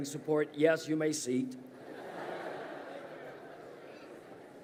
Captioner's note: crowd laughs